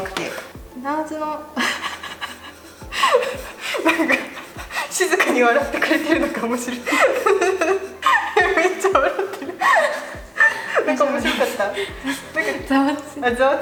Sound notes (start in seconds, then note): 0.7 laughs; 6.7 couldn't stop laughing